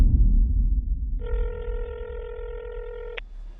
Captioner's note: line trilling